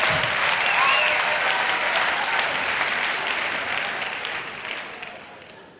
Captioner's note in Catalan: Aplaudiments